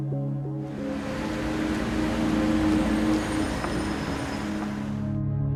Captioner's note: traffic noise